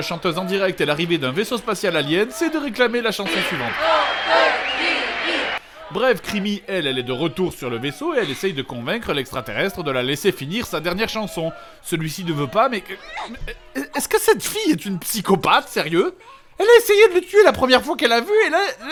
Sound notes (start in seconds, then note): 3.8 crowd